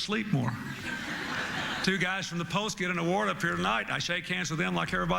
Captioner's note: laughter